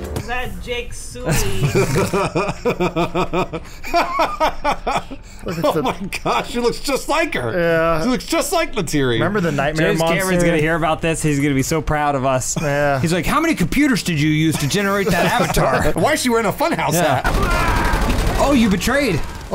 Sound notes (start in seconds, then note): 1.2 growing laughter